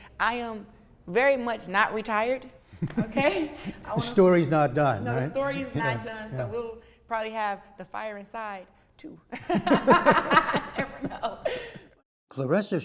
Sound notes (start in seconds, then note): 9.3 laughter